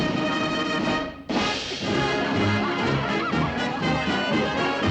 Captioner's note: laughter